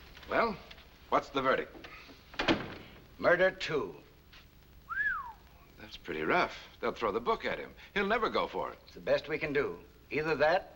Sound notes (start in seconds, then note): 4.8 whistles